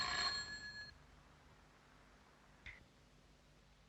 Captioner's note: ringing stops